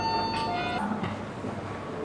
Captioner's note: convenience store entrance chime